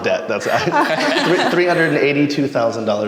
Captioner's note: all laugh